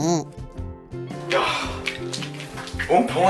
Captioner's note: short sigh